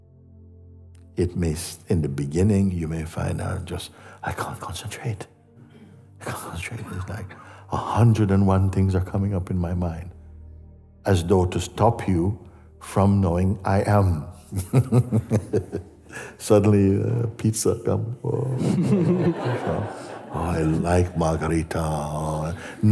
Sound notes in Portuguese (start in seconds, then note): 14.5 risos